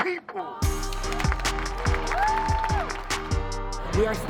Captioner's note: cheering